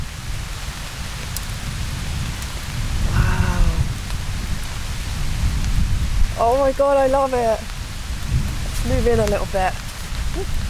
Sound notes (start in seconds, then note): 0.1 thunder rumbling; 7.5 thunder rumbling; 9.8 thunder rumbling